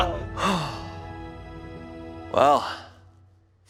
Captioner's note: person sighing